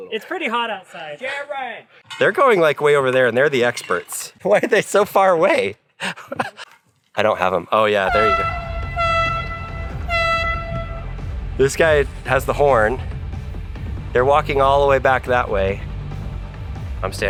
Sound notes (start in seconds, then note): 6.0 laughs; 8.0 horn honking